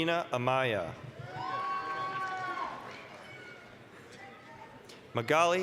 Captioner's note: applause, cheering